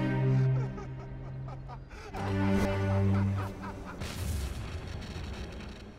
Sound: laughter

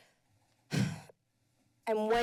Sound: sighs

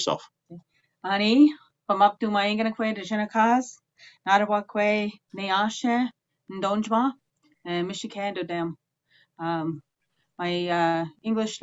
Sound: speaking Indigenous language

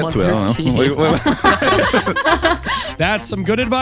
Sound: all laughing

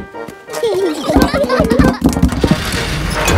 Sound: children giggling

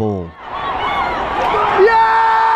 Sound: crowd cheering

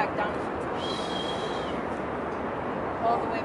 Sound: exhales loudly

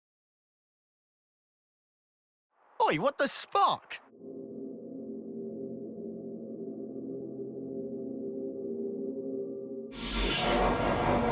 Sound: various character voices

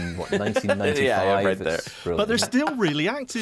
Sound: all conversing

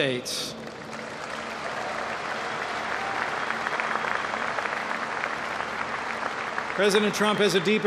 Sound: applause

